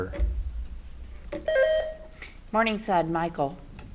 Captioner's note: buzzer beeps